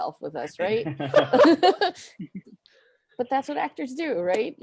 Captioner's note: group laughing